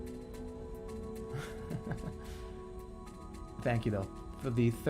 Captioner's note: chuckling